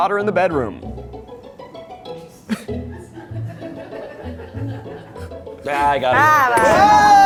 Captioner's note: crew laughing; whimsical music